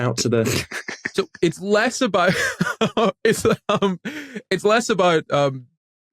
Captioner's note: snicker